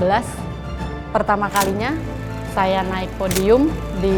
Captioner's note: camera clicks